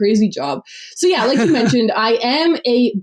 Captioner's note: laughs